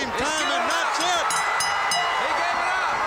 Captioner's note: bell ringing